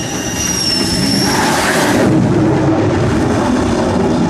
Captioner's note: aircraft whirring